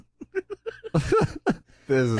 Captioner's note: giggles intensify